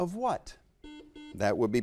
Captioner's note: buzzer beeps